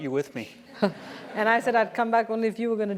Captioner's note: laugh